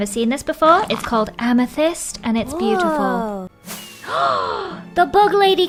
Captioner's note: gasps